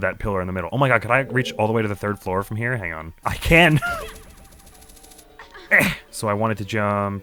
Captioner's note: grunts